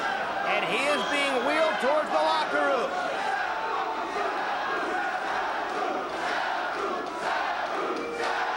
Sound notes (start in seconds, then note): 3.2 spectators chanting "Sabu!"